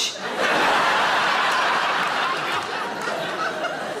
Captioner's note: audience laughs